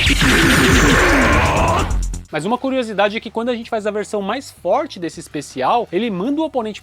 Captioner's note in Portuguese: gemido